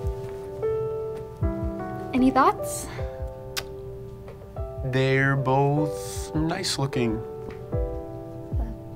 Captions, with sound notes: - Any thoughts? (Connor clicks tongue) - They're both...nice looking.